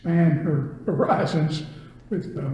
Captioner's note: laughs